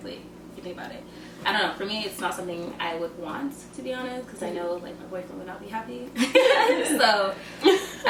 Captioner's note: laughter